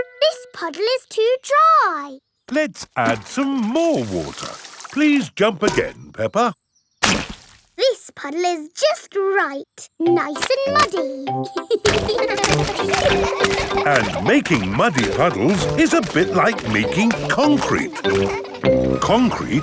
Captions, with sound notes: This puddle is too dry! Let's add some more water. Please jump again, Peppa. This puddle is just right! Nice and muddy. (CHILDREN LAUGHING) And making muddy puddles is a bit like making concrete!